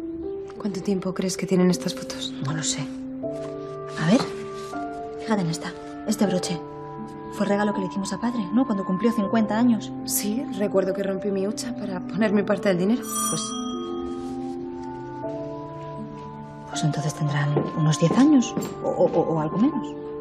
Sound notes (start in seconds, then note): 13.0 doorbell